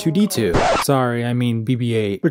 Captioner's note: record scratch